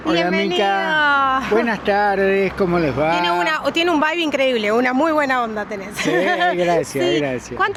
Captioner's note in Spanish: risas